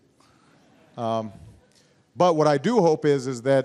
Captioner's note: laughter